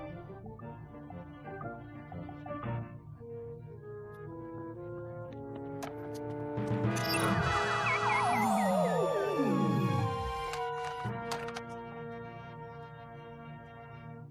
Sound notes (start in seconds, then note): 7.0 beeps; 7.1 electronic whirring winds down